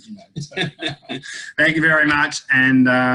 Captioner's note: laughter